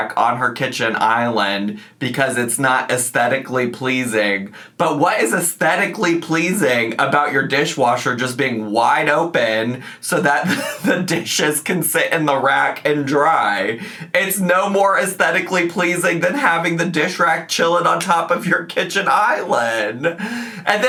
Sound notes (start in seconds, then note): 10.4 laughs